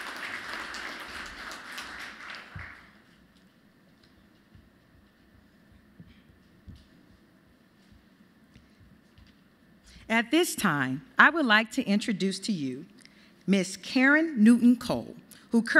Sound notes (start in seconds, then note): 0.0 applause